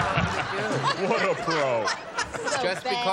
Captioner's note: laughter